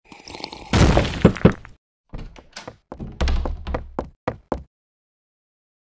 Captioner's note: sipping sounds; door opens/closes; footsteps; crash